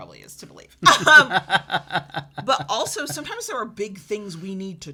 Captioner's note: laughs